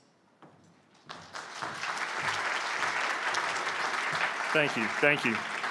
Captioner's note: applause